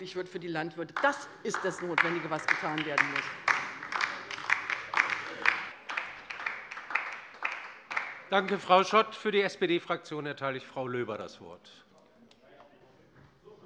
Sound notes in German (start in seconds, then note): 4.3 Beifall bei der LINKEN